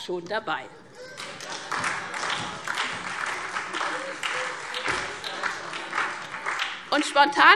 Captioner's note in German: Beifall SPD und DIE LINKE